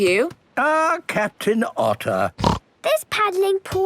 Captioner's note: snorts